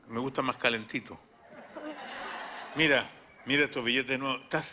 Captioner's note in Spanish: risas